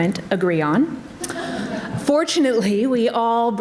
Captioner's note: audience laughs